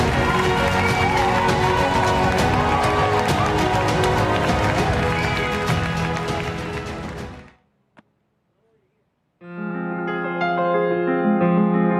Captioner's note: cheering